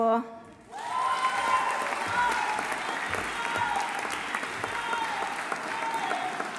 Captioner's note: audience applauding; audience cheering